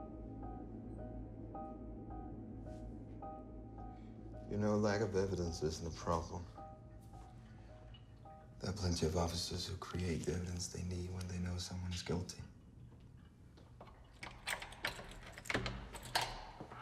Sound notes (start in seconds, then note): 13.7 lock clicks; 16.3 door creaks; 16.3 footsteps clack